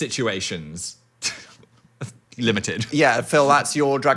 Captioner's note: laughs